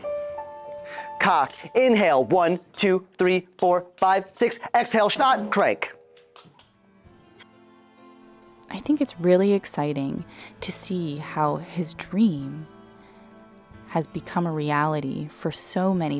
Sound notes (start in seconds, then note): 0.0 gentle piano music; 1.7 tool clicking; 2.9 tool tapping; 4.8 drum beats; 6.1 tool clicking